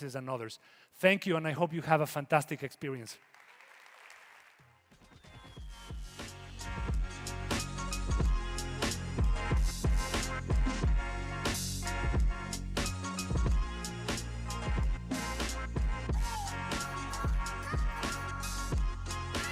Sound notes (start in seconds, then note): 2.5 groovy techno upbeat music; 2.9 audience applauding